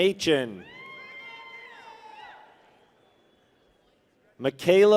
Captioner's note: people cheer